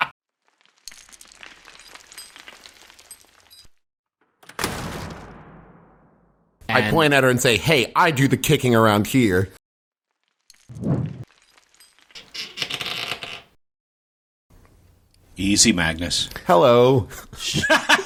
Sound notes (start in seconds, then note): 1.2 falling rocks; 4.4 door slams